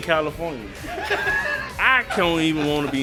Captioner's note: laughter